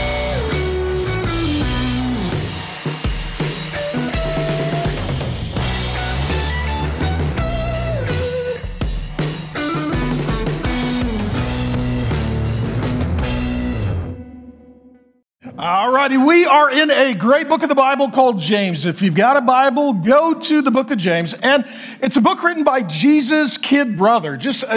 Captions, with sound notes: (sandpaper swooshing) (buffer whirring) - Alrighty, we are in a great book of the Bible called James. If you've got a Bible, go to the book of James, and it's a book written by Jesus' kid brother.